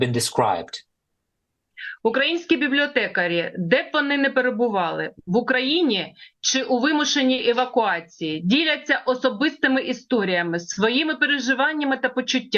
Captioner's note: foreign language